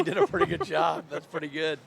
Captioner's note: laughter